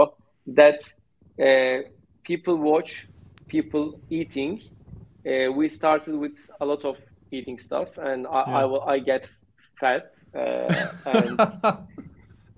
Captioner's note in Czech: Smích